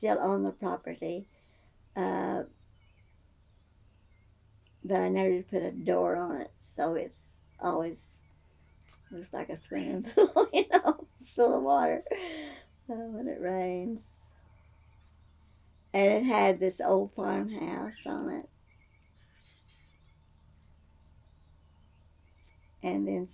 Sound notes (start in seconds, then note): 10.0 laughs